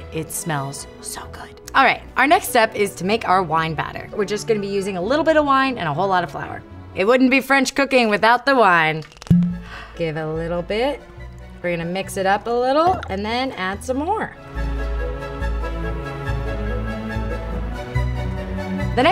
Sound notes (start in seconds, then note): 9.0 cork pops; 14.4 dramatic classical music